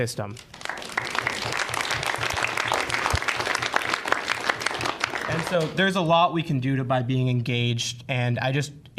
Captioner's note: applause